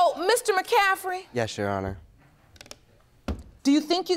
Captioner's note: closing computer